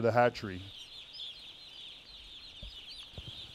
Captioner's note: chicks chirping